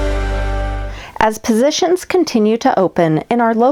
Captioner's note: voiceover